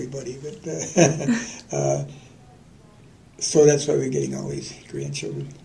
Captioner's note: laughter